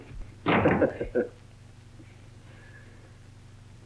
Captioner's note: both laugh